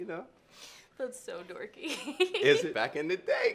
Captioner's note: laughs